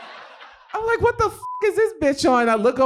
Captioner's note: beep